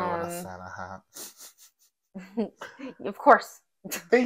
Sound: laughing

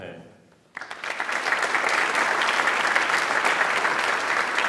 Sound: audience applauds

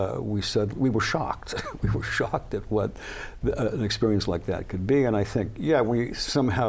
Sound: laughs

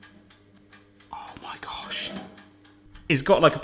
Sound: whispers

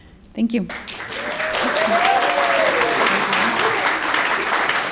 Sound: applause

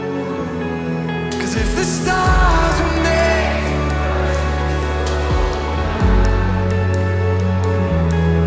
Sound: crowd

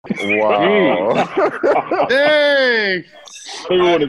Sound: laughter

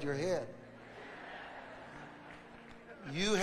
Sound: audience laughs

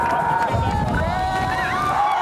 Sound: cheering

